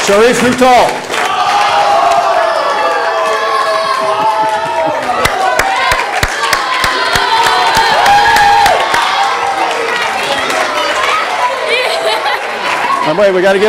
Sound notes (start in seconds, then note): 2.1 audience applause